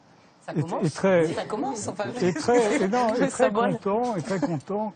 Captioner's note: guests grumble and chuckle